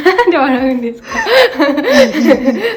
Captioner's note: laughs